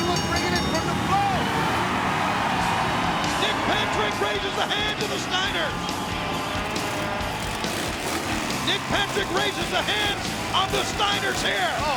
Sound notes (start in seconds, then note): 2.2 audience cheering; 7.5 motorbike revving